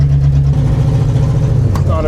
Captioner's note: engine noise